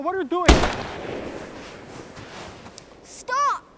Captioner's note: gun fires